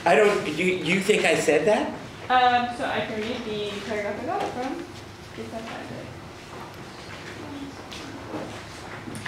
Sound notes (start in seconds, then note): 6.2 faintly speaking